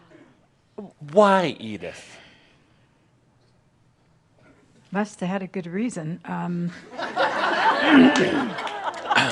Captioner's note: laughter, as sits down on the step facing her